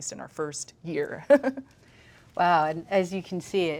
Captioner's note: laughs